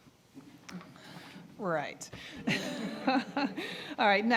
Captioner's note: audience chuckling